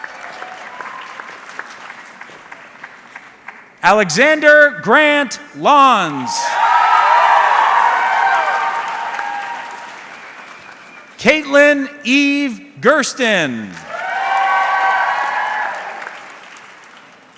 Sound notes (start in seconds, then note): 0.0 audience clapping; 5.6 audience cheering; 13.7 audience cheering